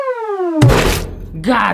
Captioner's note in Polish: Plusk